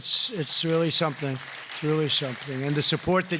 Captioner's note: applause